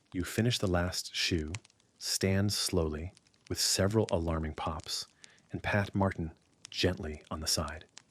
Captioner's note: with several alarming pops